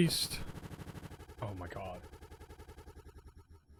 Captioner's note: audio stutters